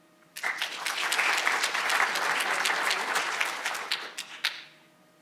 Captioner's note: audience applauding